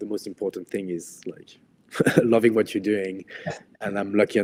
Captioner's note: laughs